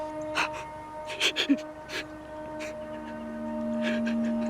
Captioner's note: sobbing